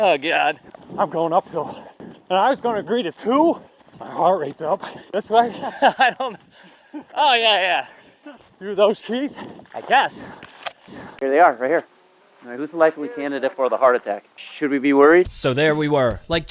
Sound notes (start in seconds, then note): 4.7 laughing